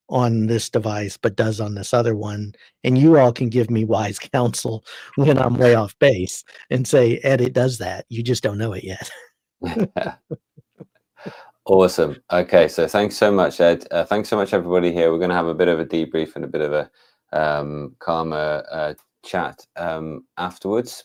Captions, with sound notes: on this device, but does on this other one. And you all can give me wise counsel when I'm way off base and say, edit does that. You just don't know it yet. (laughing) Awesome, okay, so thanks so much Ed. Thanks so much everybody here. We're gonna have a bit of a debrief and a bit of a karma chat afterwards.